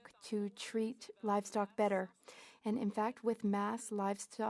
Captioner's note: speaking in French